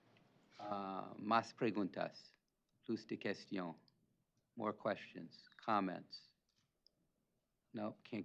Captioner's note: non-English speech